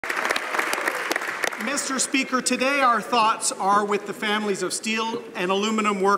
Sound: applause; some Applause; speaking French

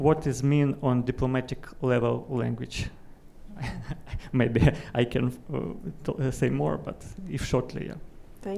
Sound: chuckle

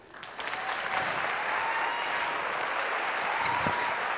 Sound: applauds

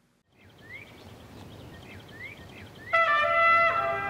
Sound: birds chirping

